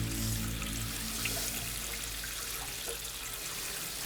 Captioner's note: water splashing